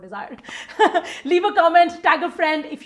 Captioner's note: laughing